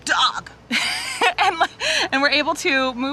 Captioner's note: laughing